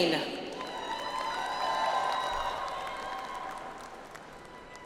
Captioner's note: audience applauds